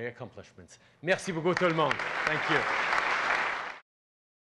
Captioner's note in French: Applaudissements